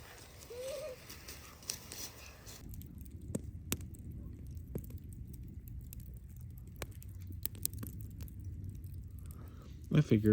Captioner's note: crackles; giggles